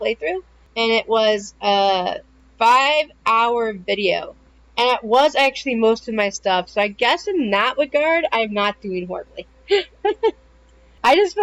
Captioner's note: laughter